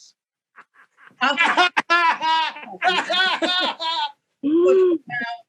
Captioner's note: sarcastic laughter